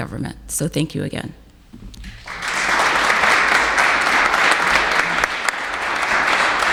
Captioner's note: applauses